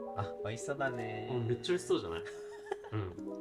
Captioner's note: said in a monotone voice